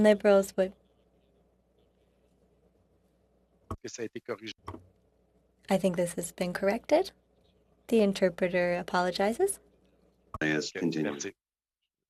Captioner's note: speaking French